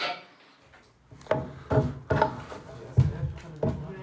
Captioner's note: creaking, clacking; wooden clattering